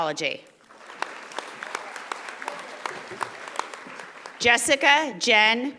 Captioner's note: audience applauding